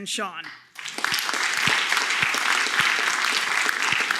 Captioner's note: applause